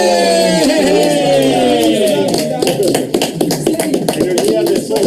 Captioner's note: cheering and applauding